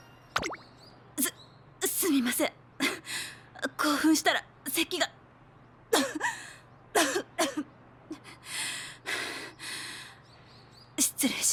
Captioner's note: cough